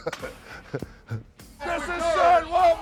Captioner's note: laugh